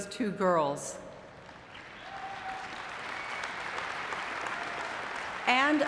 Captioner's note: audience clapping